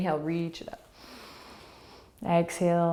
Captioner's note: inhaling